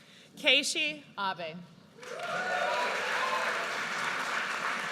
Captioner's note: audience cheers